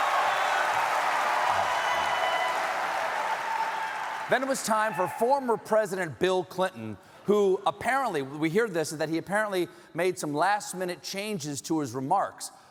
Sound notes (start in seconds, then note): 3.7 cheers